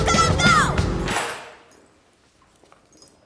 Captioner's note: keys jangle